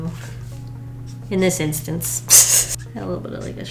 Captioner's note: laughs